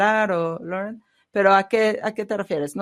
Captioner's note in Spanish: a través de intérprete